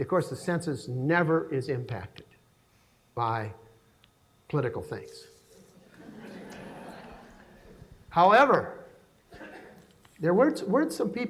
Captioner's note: laughing